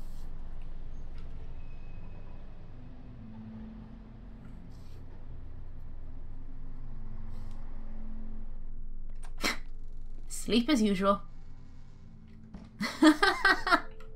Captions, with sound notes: [Chuckle] Asleep as usual! [Laughs]